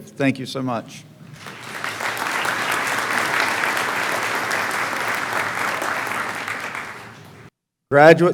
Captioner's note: clapping